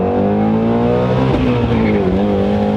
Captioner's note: car engine